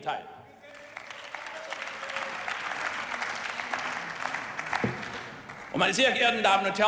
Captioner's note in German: Beifall und Zwischenrufe